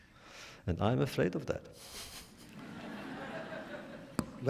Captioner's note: laughter